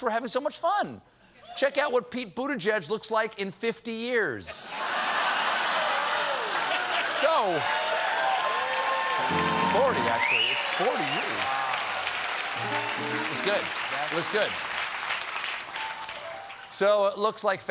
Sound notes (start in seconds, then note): 6.2 cheers and applause; 15.9 applause